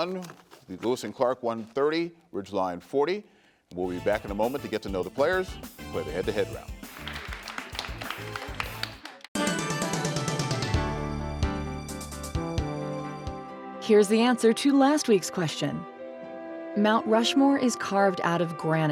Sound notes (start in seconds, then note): 6.5 crowd applauds; 9.4 dramatic music